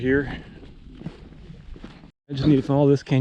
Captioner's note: footsteps thumping